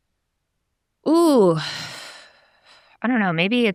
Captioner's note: sighs